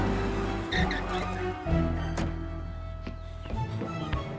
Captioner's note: brakes squealing